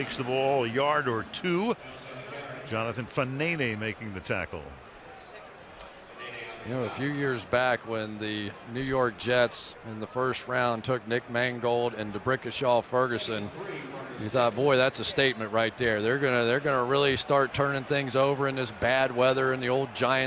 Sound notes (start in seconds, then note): 2.2 stadium announcements; 6.4 stadium announcements